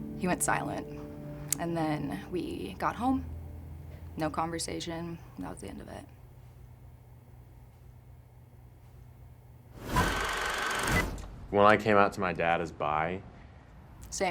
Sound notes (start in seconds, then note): 10.0 film projector whirring